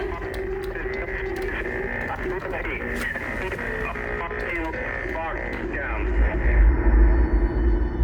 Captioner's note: Static